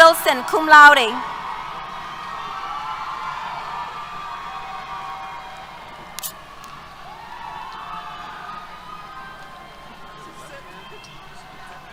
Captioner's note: cheers